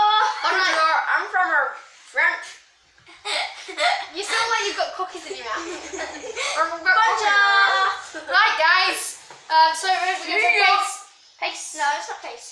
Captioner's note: laughs